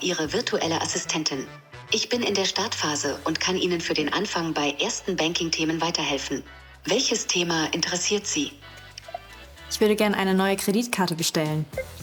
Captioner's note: foreign Language